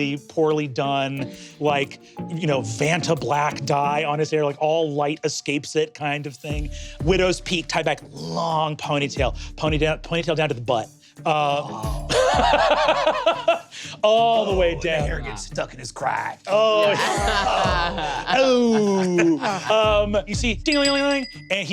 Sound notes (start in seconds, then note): 11.5 groans; 20.6 mimics bell ringing